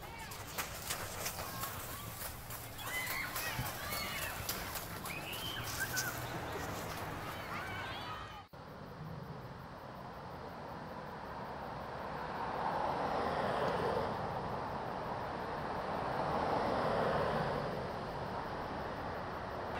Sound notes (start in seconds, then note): 0.0 dirt crunching underfoot; 8.4 traffic rumbling